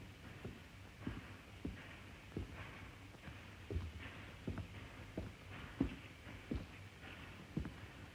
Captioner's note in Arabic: خطوات